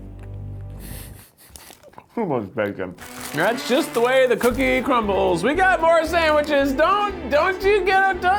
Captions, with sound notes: (laughing) So much bacon. And that's just the way the cookie crumbles. We've got more sandwiches, don't you get up,